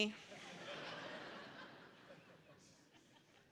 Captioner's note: laughter